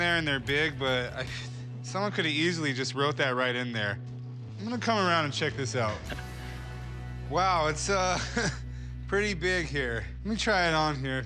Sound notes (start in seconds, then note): 8.0 laughs